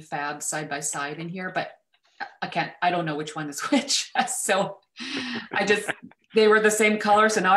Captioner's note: laughs